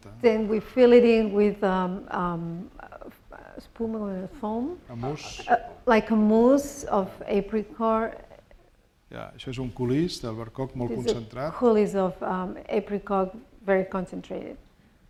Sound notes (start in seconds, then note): 9.5 speaking spanish